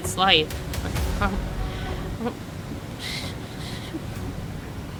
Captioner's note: exhales, voice trembling